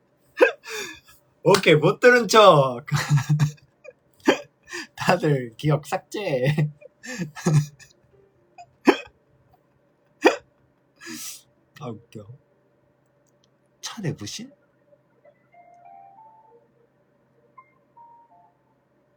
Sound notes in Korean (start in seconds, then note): 2.9 웃음